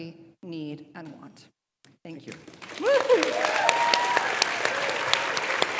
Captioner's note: audience applauds